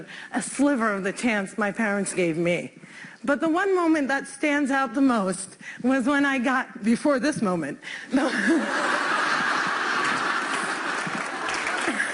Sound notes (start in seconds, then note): 8.2 laughter; 9.3 applause